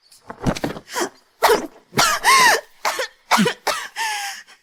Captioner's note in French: Tousse